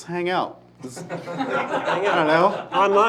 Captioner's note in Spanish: risas